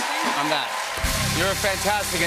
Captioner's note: cheering and applause; rimshot